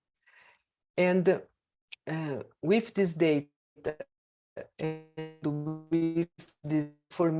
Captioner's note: audio distorts